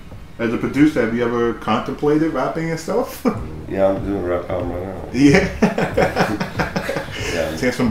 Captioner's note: laughter